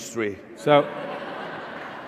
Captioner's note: laughter